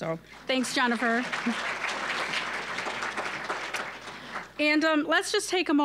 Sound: applause

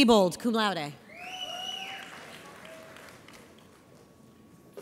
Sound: audience applauds

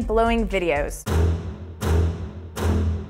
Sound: door slam

